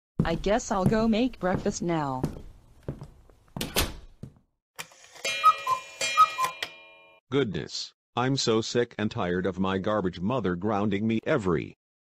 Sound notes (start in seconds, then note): 3.6 door Closes; 4.9 cuckoo Clock